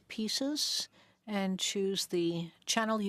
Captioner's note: speaking French